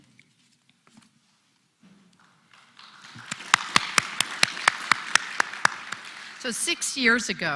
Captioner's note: applause